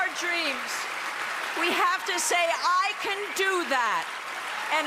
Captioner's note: cheering and applause